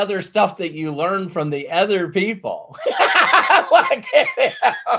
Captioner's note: laughs